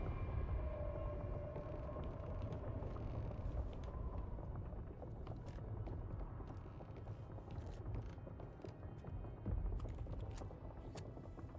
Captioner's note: footsteps